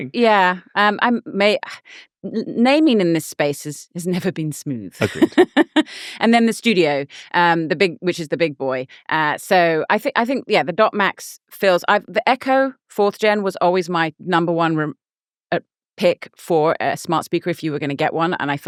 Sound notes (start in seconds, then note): 5.0 laughing